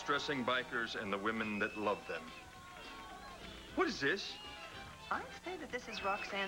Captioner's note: videotape plays